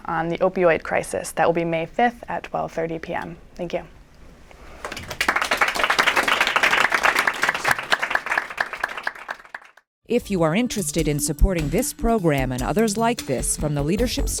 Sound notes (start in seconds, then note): 4.8 applause